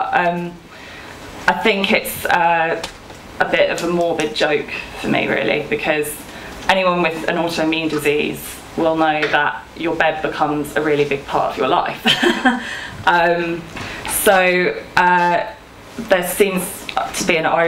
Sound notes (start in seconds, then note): 12.0 she laughs